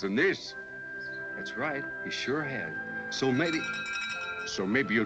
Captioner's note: door bell ringing